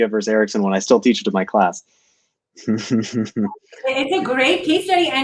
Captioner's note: laughter